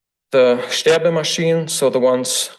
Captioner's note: foreign language